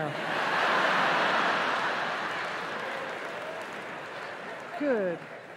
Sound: laughter

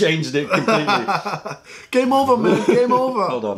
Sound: laughter

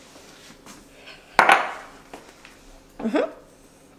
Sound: glass thumping

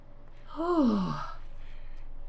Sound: sigh

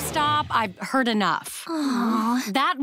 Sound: sighing

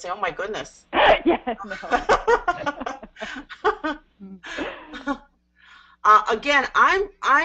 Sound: laughter

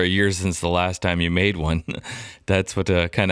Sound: laughs

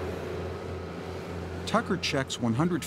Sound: truck engine hums

